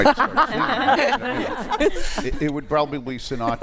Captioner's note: laughter